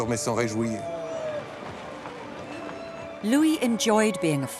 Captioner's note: people clapping; bright music